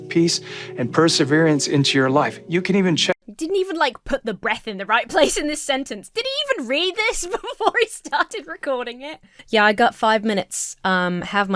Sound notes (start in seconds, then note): 7.0 laughs